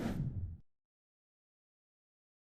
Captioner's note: whoosh